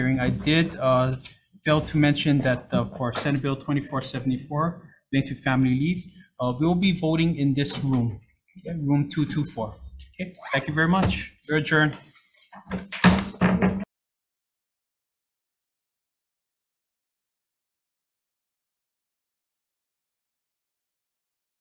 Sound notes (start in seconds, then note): 11.1 zipper zipping; 12.8 gavel pounding